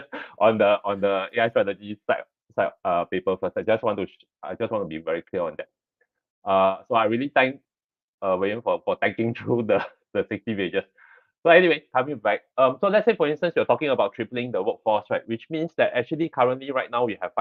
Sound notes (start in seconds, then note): 10.1 laughs